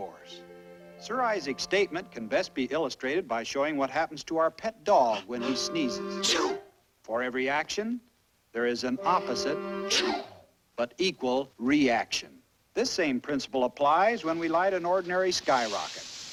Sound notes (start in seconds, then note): 6.1 sneezes